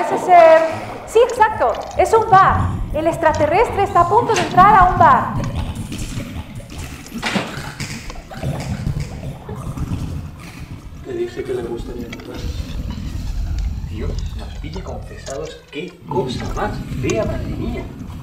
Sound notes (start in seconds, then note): 7.0 strange alien noises